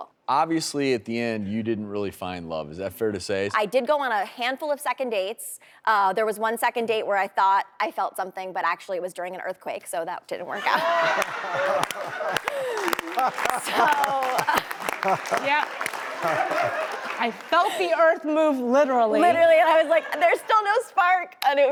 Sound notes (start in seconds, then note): 11.1 audience and panel claps; 11.4 audience laughs